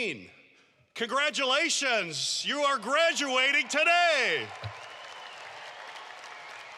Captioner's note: applause